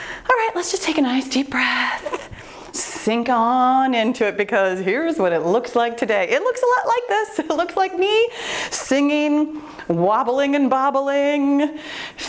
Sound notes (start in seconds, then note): none